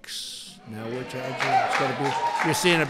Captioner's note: applause